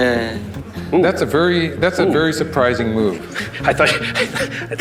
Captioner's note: laughs